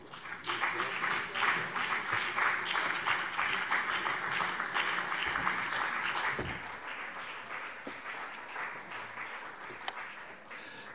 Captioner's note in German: Beifall BÜNDNIS 90/DIE GRÜNEN und CDU